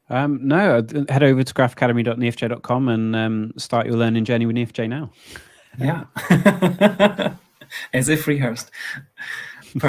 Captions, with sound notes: - No, head over to graphacademy.neo4j.com and start your learning journey with Neo4j now. - Yeah, (laughs), as if rehearsed.